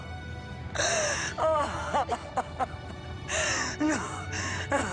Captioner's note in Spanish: Sollozos